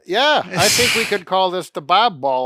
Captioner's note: chuckles